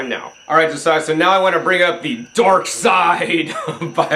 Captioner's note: chuckles